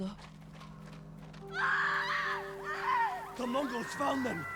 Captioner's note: screams